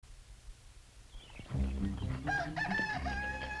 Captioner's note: rooster crowing